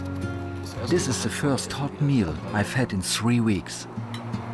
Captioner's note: in German